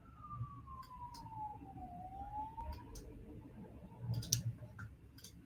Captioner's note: mouse clicking